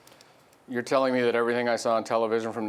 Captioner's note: voiceover